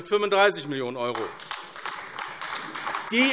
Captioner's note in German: Beifall AfD